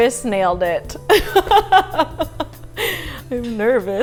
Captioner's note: laughing